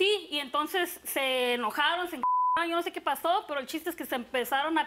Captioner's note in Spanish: Bip